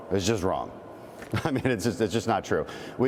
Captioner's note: laughter